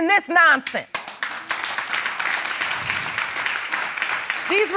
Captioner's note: audience clapping